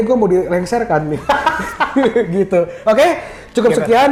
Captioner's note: laugh